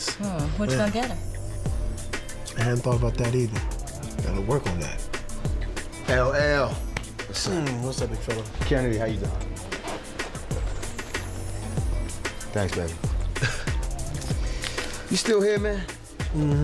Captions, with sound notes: - What you gonna get her? - I hadn't thought about that either. I gotta work on that. - L.L.! What's up? - What's up big fella? - Janet, how you doin'? Thanks babe. (chuckling lightly) You still here, man?